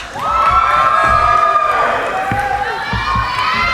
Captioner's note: cheering